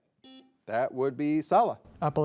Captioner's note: buzzer buzzing